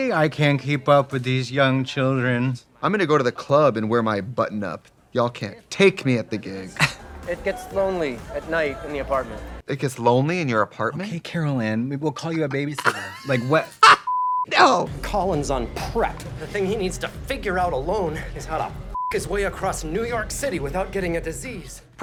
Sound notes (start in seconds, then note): 12.8 Trixie cackles; 14.0 beep; 18.9 beep